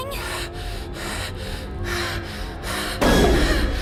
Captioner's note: hyperventilating